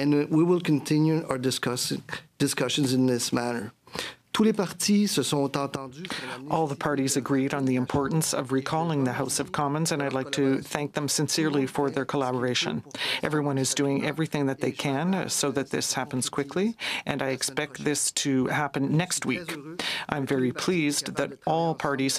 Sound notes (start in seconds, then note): 7.1 speaking French